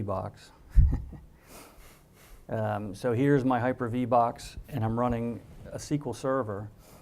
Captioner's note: laugh